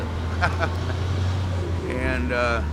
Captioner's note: laughs